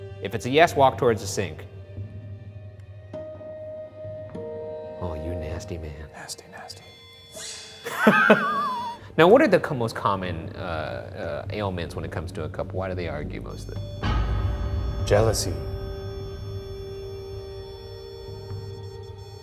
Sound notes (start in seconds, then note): 1.6 slow tense music; 7.8 laughs; 13.5 REM-pod beeps